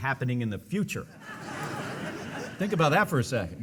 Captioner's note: audience laughing